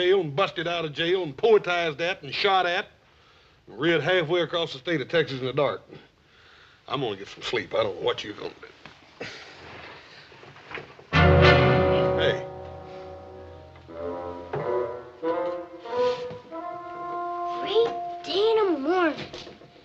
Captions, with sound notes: and busted out of jail, and poetized at, and shot at... Rid halfway across the state of Texas in the dark. I'm gonna get some sleep. I don't know what you gunna do. (rustling of screen) (dramatic music) Hey. (comical music) - Great day in tha morning.